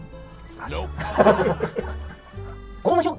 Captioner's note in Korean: 웃음